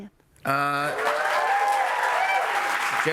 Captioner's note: cheers and applause